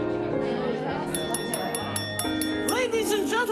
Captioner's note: glass clinking